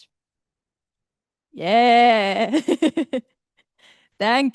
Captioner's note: laughter